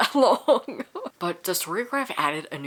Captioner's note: laughs